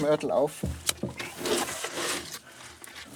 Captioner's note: scavengering, rumbling